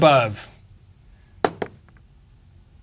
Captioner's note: dice rolling